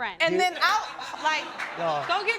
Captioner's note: people laughing